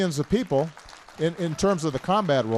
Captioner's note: applause